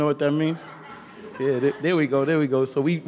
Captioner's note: laughing